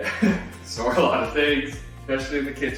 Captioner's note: chuckles